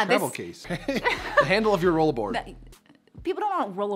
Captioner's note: laughs loudly